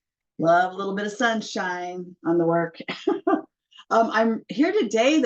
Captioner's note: laughter